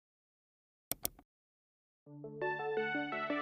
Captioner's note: keyboard clacking; mouse clicking; upbeat music